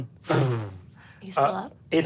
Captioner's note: mimics air whooshing